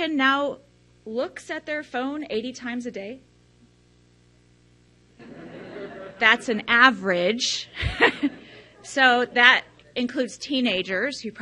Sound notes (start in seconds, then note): 5.2 audience laughs; 7.7 laughs